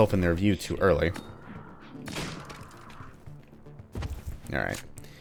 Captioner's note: Manslayers chattering